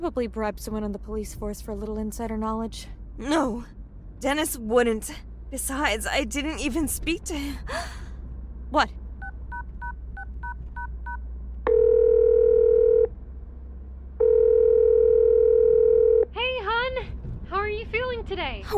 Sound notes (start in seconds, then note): 7.6 gasps; 11.7 phone dailing & ringing